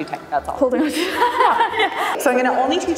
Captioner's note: laughing